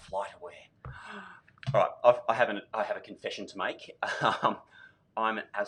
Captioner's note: gasps; laughs